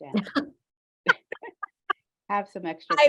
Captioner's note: laughter